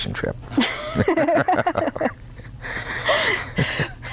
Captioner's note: laughter